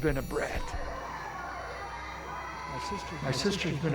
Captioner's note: cheerleaders echo